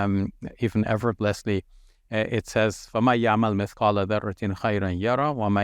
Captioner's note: speaks Arabic